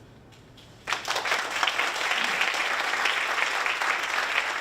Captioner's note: audience applauding